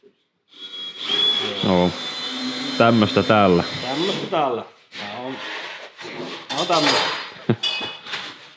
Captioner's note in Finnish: taustahälinää; naurahtaa